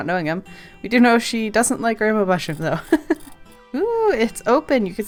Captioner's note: laughs